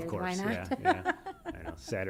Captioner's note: laughter